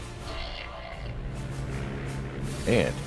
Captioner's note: airplane engine roaring